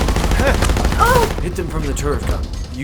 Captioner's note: grunting